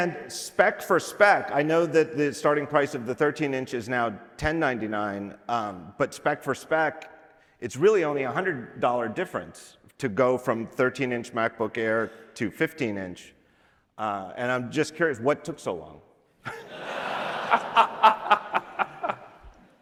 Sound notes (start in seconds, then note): 18.1 laughter